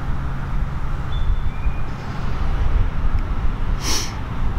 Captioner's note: birds chirping